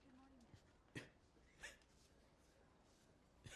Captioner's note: coughing